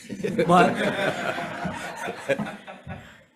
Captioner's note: members laughing